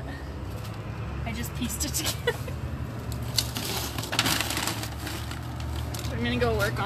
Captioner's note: laughs